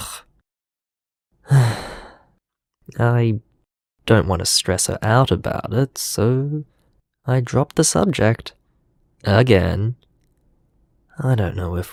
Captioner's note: sigh